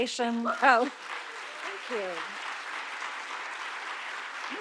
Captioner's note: audience applauding